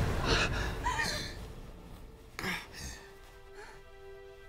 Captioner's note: Mark panting